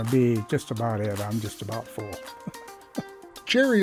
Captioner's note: laughs